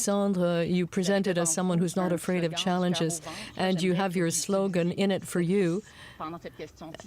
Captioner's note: speaking french